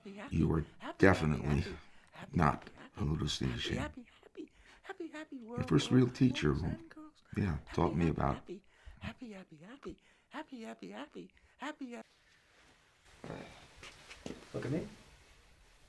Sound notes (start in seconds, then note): 9.4 whispering